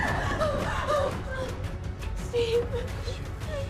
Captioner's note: Maria panting